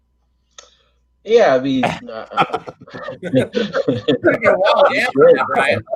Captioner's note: all laugh